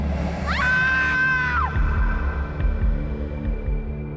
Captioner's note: screams